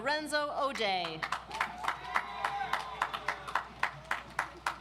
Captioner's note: audience applauds